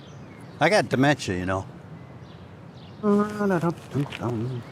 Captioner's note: birds chirp